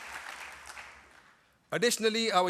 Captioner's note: applause